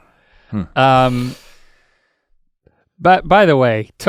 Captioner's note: Rhett inhales deeply